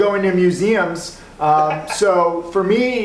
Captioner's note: laughs